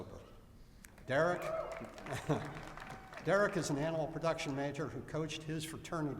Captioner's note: applause